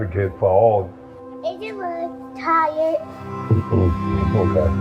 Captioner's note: non-english